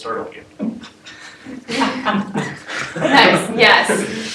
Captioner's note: laugh